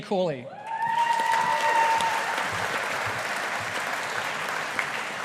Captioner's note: audience applauding